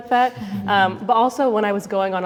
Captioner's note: everybody laughs